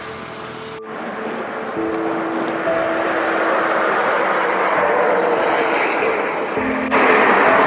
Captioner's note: highway sound